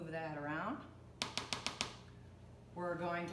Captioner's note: spoon tapping